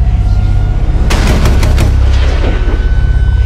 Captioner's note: gunshots